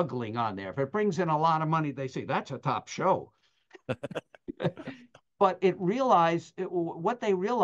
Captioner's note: laughter